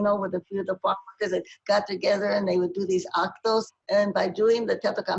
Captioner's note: speaking spanish